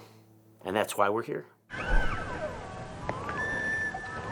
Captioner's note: elk calling